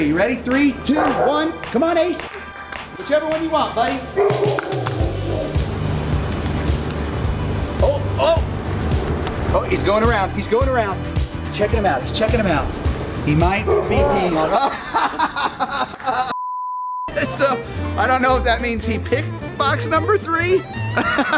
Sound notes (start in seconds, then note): 13.8 laughs; 16.3 signal beeping